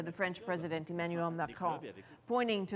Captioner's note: speaking French